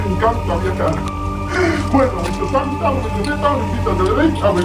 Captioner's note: devilish voice